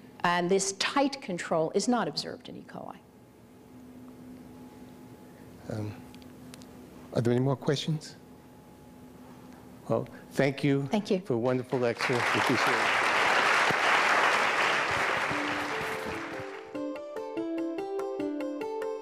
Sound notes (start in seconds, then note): 13.3 audience applause; 16.2 solemn music